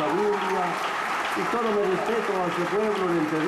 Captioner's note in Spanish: aplausos